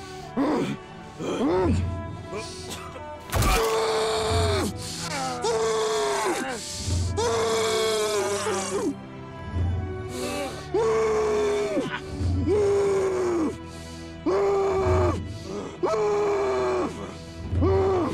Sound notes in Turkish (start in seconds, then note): 0.2 Boğuk bir sesle; 3.3 Kemiğin Yerleşmesi Sesi; 3.6 Boğuk bir sesle acıyla bağırıyor